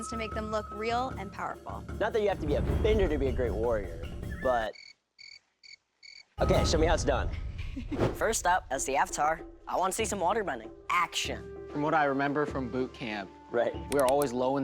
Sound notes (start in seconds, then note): 4.7 cricket chirps; 7.6 laughs